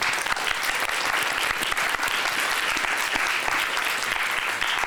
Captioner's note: applause